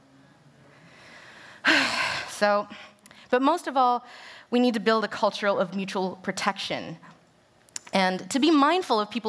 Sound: deep sigh

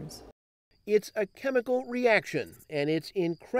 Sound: voiceover

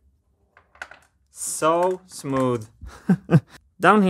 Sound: chuckles

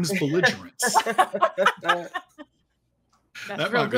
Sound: everyone laughs

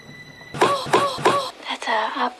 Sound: Lorraine moaning

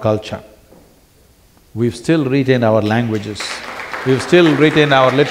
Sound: applause

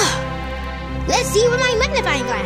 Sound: breathing

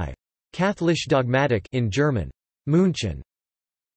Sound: in German

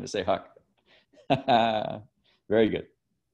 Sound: laughs

